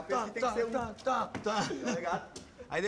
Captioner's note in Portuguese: risada